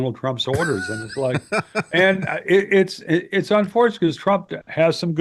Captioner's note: laughing